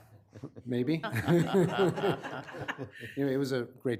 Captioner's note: room laughing